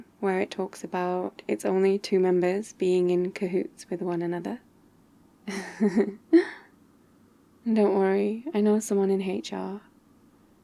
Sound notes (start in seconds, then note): 5.5 laughs